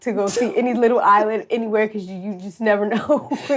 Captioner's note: laughs